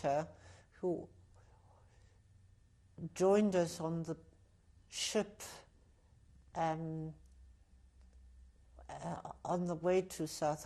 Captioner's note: pauses for 3 seconds